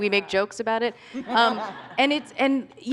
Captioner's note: laughter